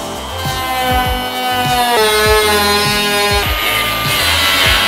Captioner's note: machine buzzes; upbeat music